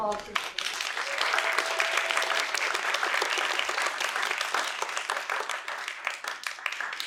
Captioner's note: applause